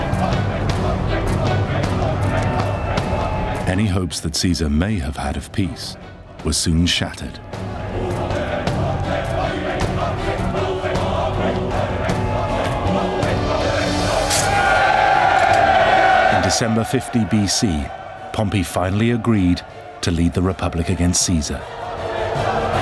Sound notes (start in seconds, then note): 9.4 crowd chants "pompey!"; 13.8 crowd cheers